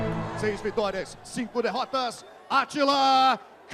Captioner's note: announcer speaking Portuguese